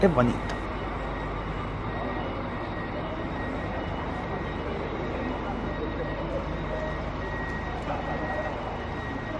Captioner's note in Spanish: sonido ambiente, salida del bus 'ETM PYLD14'